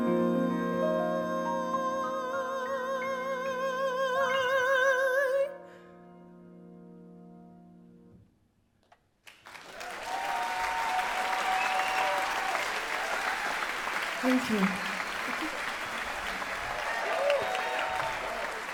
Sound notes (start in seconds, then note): 9.3 cheering and applause